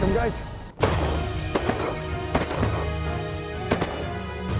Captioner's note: gun shots